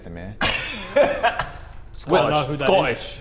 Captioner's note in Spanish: Risas